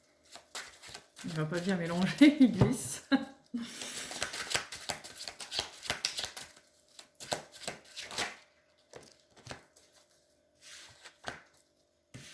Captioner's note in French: rires